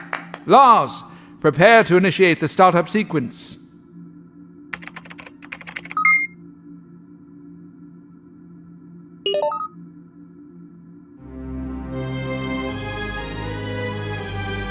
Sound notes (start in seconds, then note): 4.7 typing; 9.0 start up noise; 11.1 dramatic music